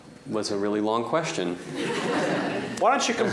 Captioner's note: laughter